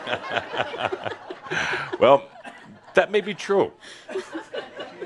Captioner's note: more laughter